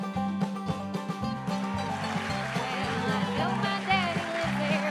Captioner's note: upbeat bluegrass music; audience applauding